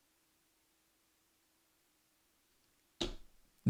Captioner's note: silence